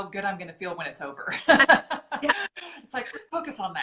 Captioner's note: laughing